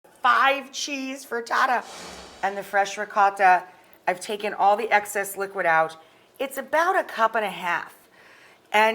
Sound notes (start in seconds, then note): 1.6 whooshing